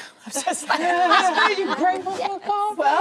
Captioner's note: laughing